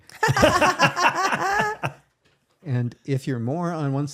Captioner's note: both laughing